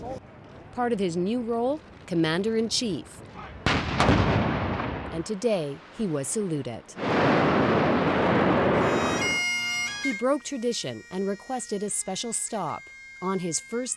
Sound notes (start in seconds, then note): 3.6 cannon fired; 8.8 bagpipes